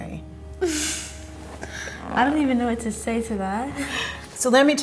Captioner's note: laughs